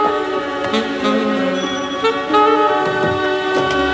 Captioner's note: Doorbell rings